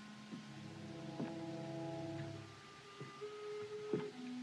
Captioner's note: footsteps